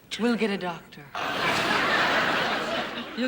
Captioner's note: audience laughing